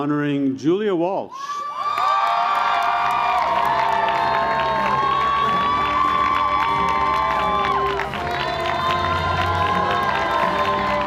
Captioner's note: cheers and Applause